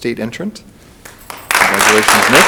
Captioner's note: audience applauds